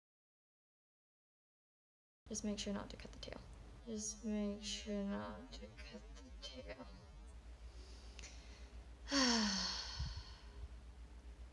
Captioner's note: sighs